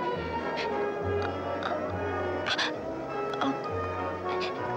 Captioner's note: Elissa gasping